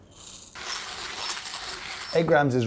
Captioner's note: coffee beans against ceramic dosing tray; coffee grinding